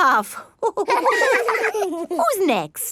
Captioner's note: all laughing